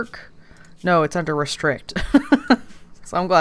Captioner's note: laughs